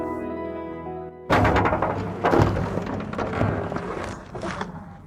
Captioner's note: loud bang of backhoe